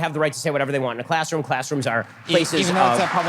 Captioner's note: audience cheers